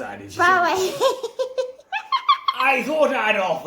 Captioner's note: just bursts into a fit of giggles